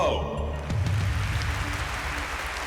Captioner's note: applause